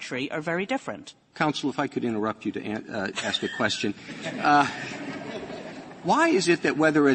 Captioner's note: laughter